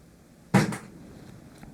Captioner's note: bang